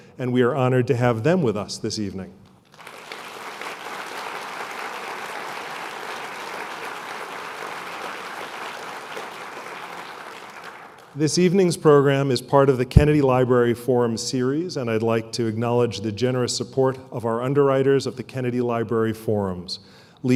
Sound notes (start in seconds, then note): 2.6 applause